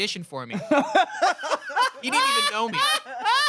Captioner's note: everyone laughs